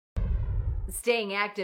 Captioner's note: whooshing sound